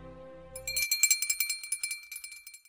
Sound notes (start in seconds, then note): 0.5 bell rings